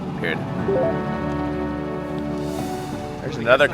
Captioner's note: bell chimes